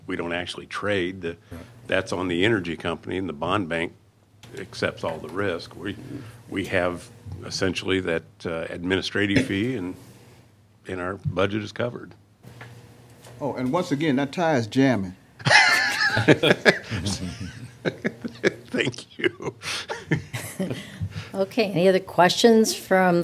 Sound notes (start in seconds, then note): 15.4 laughter